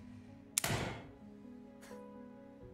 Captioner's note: gunshot